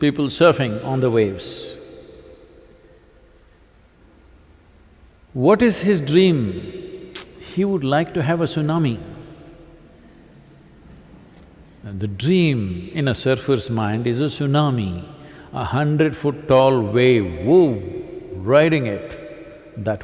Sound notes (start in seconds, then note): none